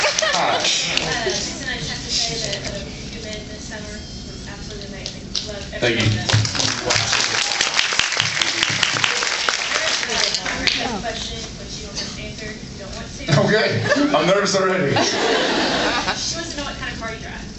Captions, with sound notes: Hi. Jensen I have to say that A Few Good Men this summer was absolutely amazing. Loved every minute of it. Thank you. [applauds] Absolutely. Thank you. Jared, my friend has a question which you don’t have to answer if you don’t want to. [laughs] Ok, I’m nervous already. She wants to know what kind of car you drive.